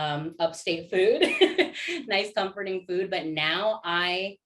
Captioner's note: laughter